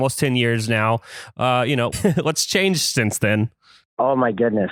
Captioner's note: laughs